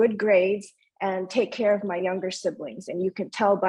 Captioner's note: speaking in foreign language